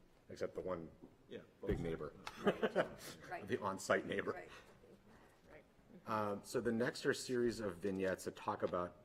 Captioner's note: laughter